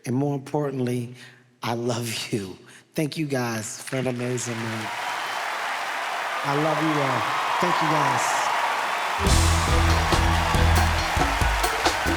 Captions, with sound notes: and more importantly, I love you. Thank you guys for an amazing night. (audience applauds) I love you all. Thank you guys. (upbeat music)